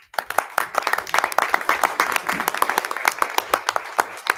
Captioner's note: audience clapping